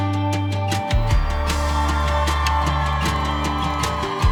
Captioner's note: cheering